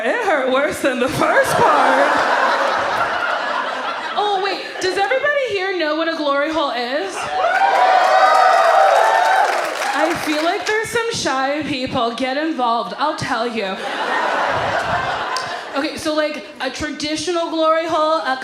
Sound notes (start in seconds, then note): 2.5 audience laughs; 7.4 audience applauds and cheers